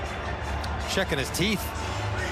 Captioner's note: cheering